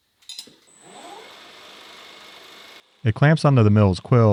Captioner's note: machine whirring